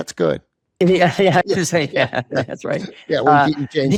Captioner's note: chuckling